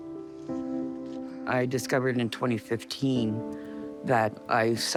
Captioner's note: sighing